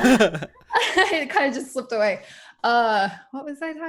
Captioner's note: laughs